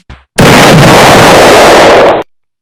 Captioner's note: boom